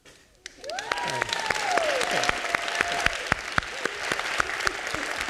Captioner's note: audience clapping